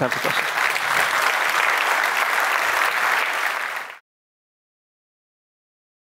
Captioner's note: applause